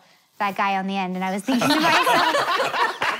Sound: laughter

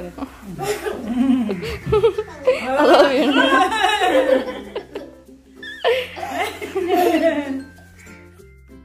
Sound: laughing

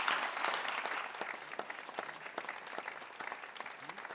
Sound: audience clapping

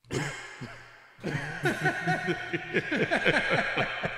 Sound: laughing

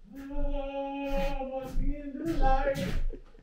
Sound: chuckles

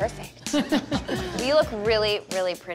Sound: all laugh

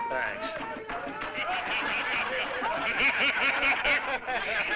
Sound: crowd laughing

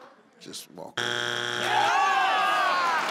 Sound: beeping; crowd

